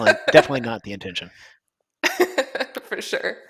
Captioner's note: laughter